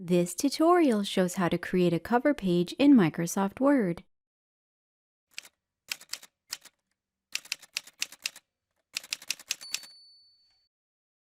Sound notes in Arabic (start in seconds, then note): 5.2 صوت آلة كاتبة